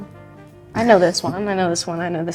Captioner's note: chuckling